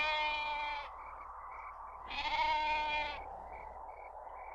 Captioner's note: goat bleating; insects chirping; wind whooshing